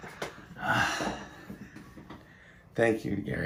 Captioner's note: laughing; sigh